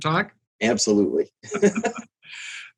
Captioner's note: laughs